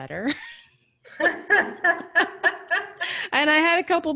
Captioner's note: laughs